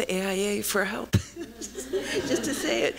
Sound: laughter

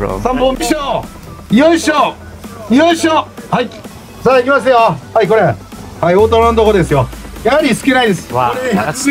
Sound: staff speaks in japanese

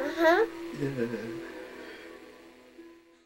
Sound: laughs

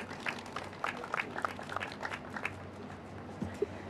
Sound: applause

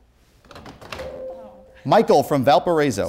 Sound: beeping

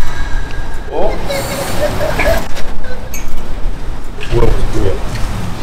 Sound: suddenly hears a boy's laughter

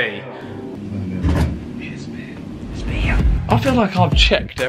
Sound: quiet chatter

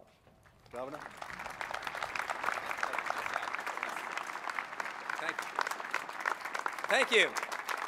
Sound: applause

